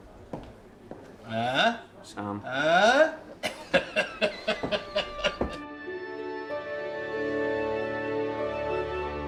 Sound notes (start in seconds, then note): 3.5 laughing; 5.5 orchestral music